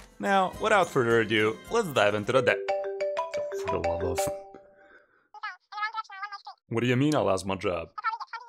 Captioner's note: phone rings